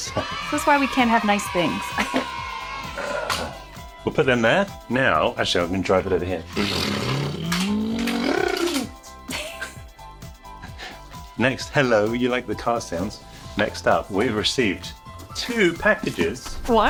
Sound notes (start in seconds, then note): 0.0 children cheering; 6.7 imitating car whooshing; 9.2 chuckles